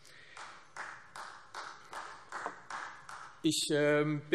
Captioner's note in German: Beifall Freie Demokraten